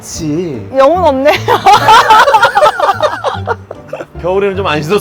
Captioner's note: laughs